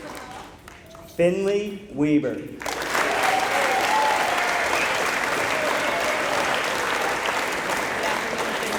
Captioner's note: applause